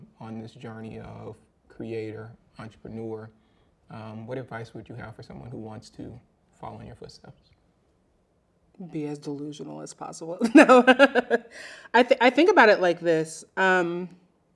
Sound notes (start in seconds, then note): 10.4 laughing